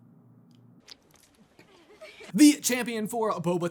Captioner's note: splurt; girls giggling